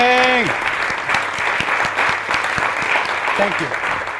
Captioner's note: audience applauding